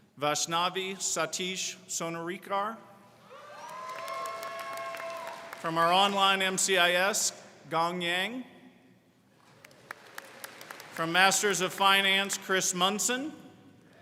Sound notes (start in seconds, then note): 3.3 crowd cheering; 9.4 crowd clapping